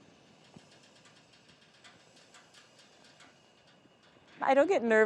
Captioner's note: flame roars